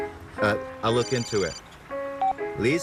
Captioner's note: phone rings